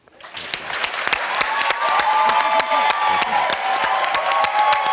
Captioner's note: audience applauds and cheers